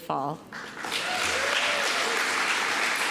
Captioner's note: applause